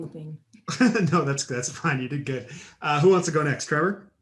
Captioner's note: chuckles